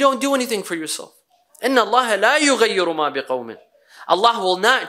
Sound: Arabic

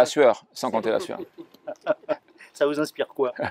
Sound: Rires

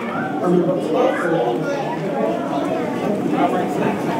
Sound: crowd becomes quieter as the small space transitions to large one

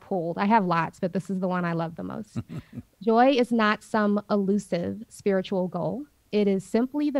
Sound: Sadhguru laugh

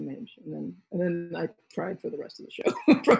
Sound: laughs

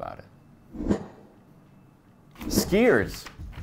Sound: air whooshing

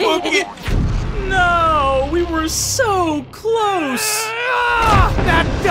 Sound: laughing; dramatic impact sounds; yelling

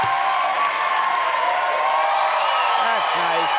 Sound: cheering and applause

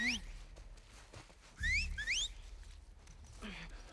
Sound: whistle; whistle

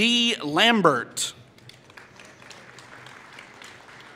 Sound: applause

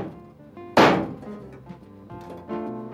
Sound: knife slamming

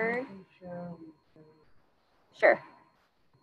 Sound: student speaking faintly

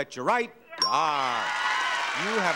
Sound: audience applauding

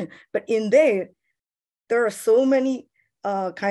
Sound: none

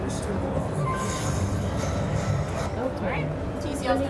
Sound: screen beeps

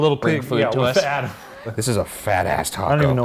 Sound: laughing

